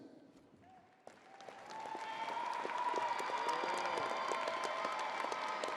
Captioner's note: crowd applauding